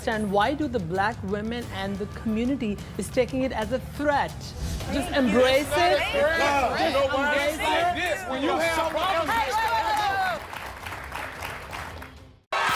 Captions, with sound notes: why do the black women and the community is taking it as a threat. Embrace it. (angry chatter) - Hey, whoa, whoa, whoa. (crowd applauds)